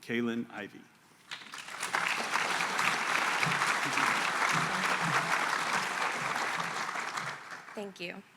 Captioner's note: applause